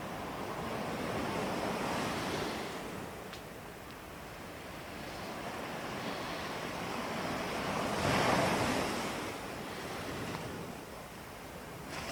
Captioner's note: breathing